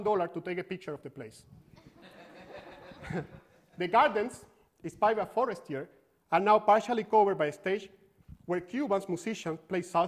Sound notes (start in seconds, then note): 1.8 laughter